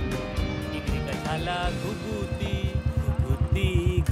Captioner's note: Humming a song